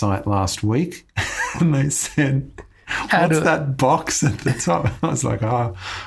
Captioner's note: laughing